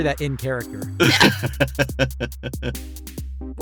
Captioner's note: laughs